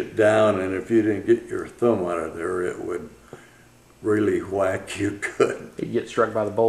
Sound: laughs

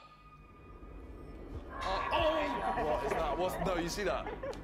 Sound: voices echo

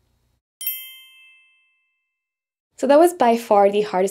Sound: text chimes

